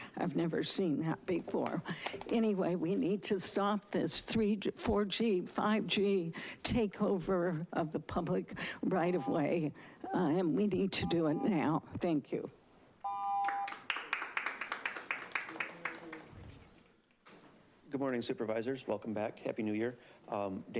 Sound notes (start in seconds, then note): 11.0 beeping; 13.4 attendees applauding